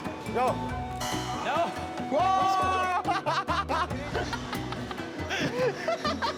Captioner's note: laughs